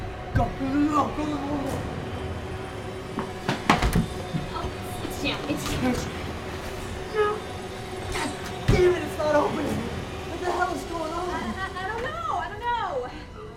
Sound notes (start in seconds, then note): 3.5 door latches; 8.1 grunts